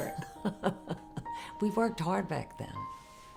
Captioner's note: laughs